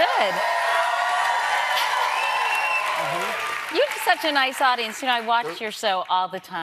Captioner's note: cheers and applause